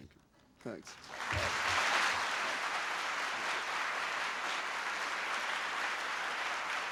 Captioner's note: applause